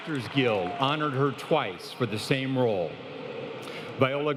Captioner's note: applause